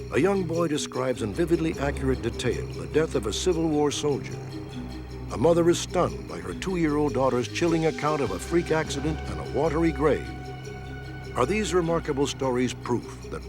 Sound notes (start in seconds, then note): none